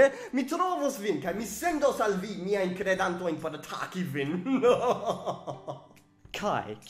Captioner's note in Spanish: risas